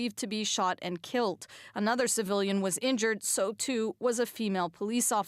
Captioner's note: speaking French